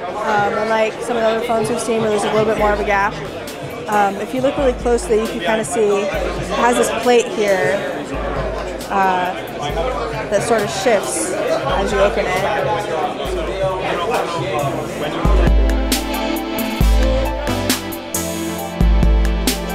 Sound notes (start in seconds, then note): 12.7 chattering in the background; 15.1 upbeat electronic pop music